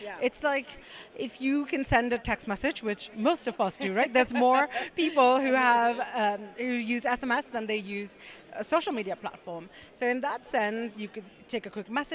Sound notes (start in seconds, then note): 3.8 laugh